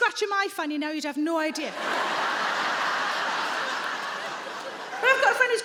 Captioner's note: audience laughing